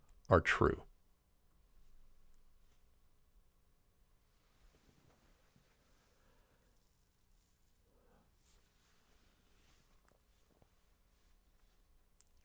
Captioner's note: pause